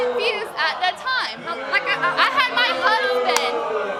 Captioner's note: audience jeering